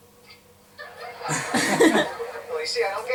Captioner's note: Eric and Ellen laugh